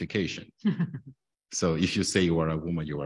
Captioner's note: lady chuckles